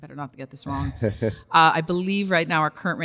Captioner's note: laughs